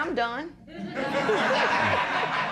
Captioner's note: laughter